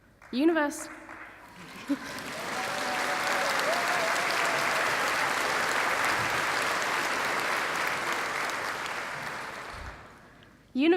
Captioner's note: applause